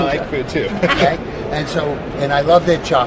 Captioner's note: laughs